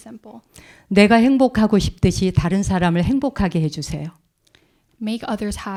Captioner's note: speaking in Korean